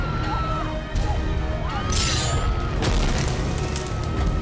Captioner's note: screaming continues